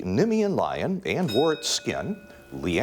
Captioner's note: bell dings